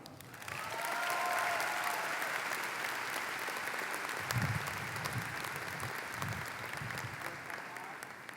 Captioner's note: applause